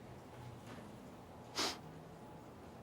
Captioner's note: sniffs